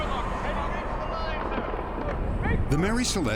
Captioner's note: shouting orders